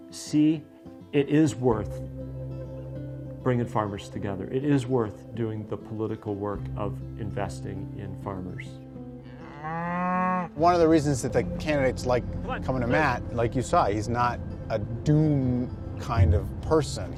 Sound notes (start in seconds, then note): 9.2 cow mooing